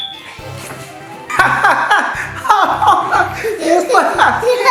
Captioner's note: ZZ Dad laughing